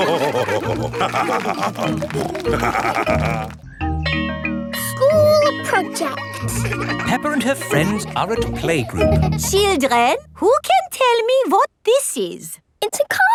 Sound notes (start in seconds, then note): 0.0 laughing; 2.3 snorting; 3.8 school bell rings